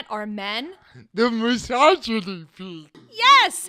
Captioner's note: laughs